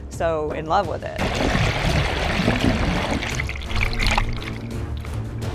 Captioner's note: water gurgling